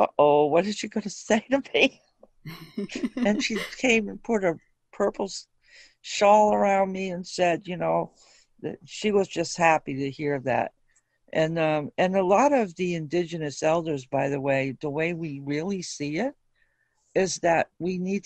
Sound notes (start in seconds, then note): 2.4 chuckle